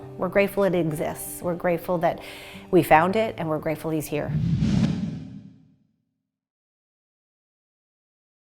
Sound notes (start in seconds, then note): 4.2 words whooshing